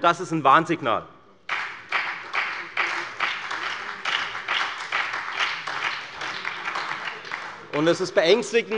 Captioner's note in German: Beifall bei der FDP und bei Abgeordneten der SPD